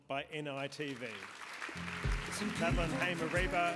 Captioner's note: applause